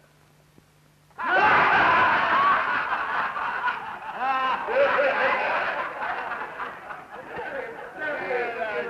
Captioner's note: laughing